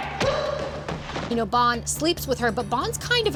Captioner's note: shouting and grunting